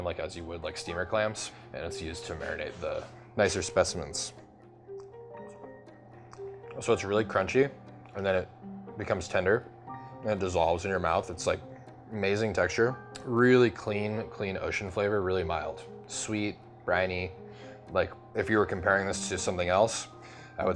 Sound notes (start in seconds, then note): 5.2 chewing